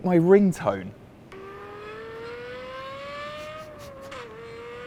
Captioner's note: car accelerating